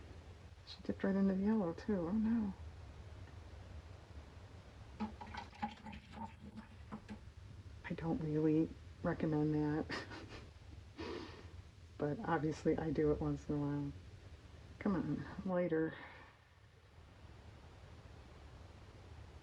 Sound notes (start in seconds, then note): 9.9 laughs